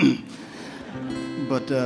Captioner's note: audience members laugh